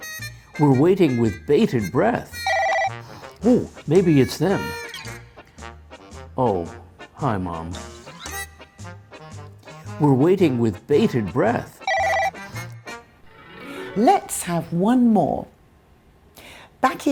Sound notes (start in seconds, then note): 2.3 phone rings